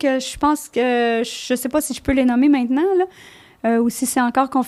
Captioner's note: in french